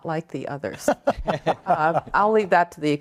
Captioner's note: group laughs